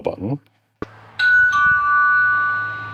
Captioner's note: doorbell ringing